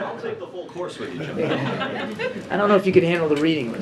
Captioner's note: laughter